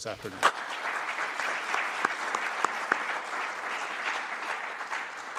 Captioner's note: applause